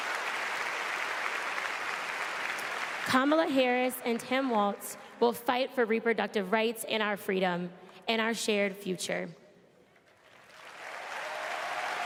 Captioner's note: applause